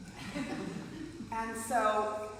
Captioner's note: group laughs